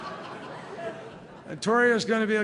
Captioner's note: laughter